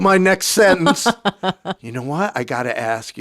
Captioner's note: laughing